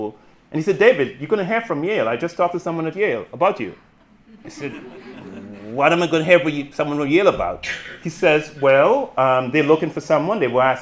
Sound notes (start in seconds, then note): 4.1 audience chuckling